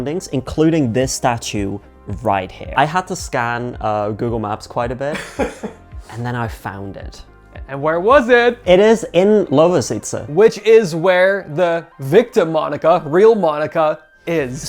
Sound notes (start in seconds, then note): 5.1 laughing